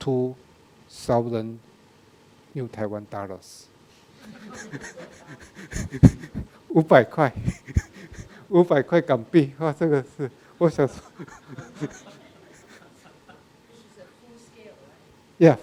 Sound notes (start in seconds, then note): 4.2 laughs; 6.9 speaking in a foreign language; 10.6 audience laughing; 13.7 woman speaking in background